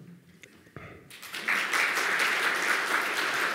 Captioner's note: clapping